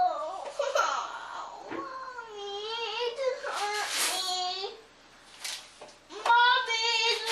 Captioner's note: cries